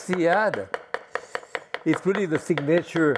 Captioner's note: knife thumping